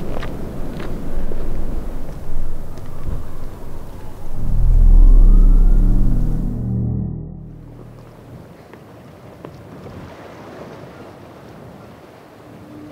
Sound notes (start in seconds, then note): 8.3 waves crashing slowly